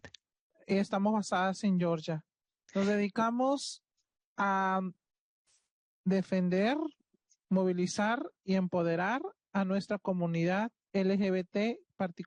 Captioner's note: speaking Spanish